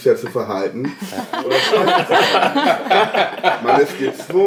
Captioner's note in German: Gelächter